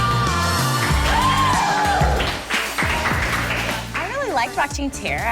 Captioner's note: audience cheers